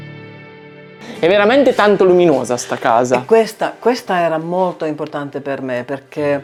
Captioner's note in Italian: sbuffare